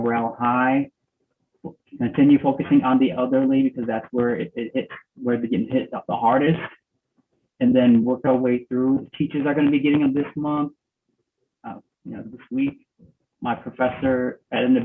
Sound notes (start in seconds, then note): none